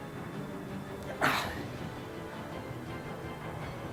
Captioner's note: gasp in pain